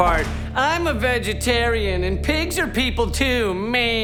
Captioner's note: with high-pitched voice